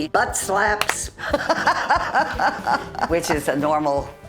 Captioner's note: laughing